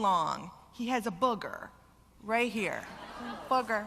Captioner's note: laughter